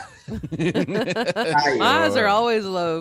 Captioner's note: laughing